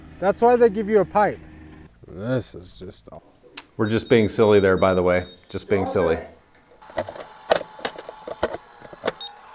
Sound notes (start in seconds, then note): 2.9 control panel clicking; 3.8 control panel beeping; 6.8 gate whirring; 7.2 lid clattering